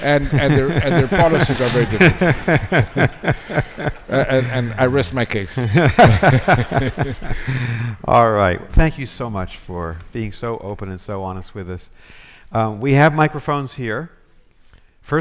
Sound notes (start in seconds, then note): 3.5 all laughing; 6.2 all laughing